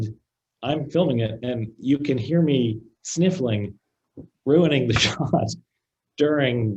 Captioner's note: laughs